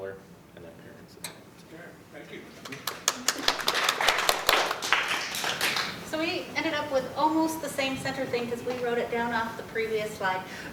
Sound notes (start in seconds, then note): 2.6 applause